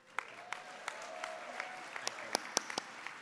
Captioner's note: applause